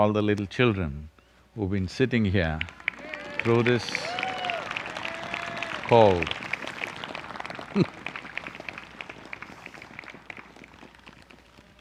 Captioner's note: cheers/Applause